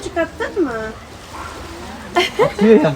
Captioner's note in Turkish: Kahkaha